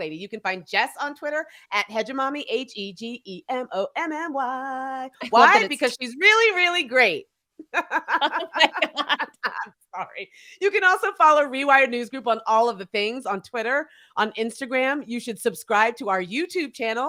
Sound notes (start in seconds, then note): 7.6 both laughing